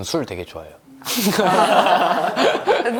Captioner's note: laugh of relief